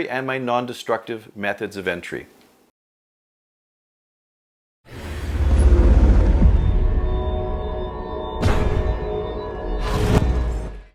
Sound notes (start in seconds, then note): 5.2 air wooshing; 8.4 safe door slams